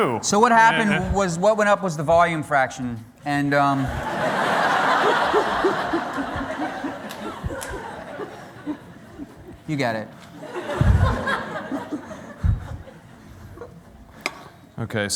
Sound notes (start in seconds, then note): 4.2 laughter